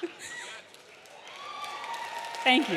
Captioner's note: audience laughing; audience applauding; audience cheering